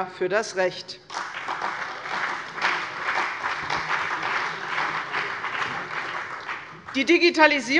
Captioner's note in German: Beifall bei der CDU und dem BÜNDNIS 90/DIE GRÜNEN